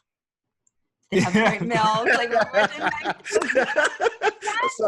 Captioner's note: laughter